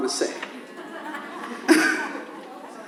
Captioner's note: audience laughs